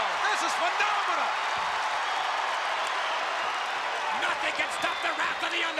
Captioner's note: applause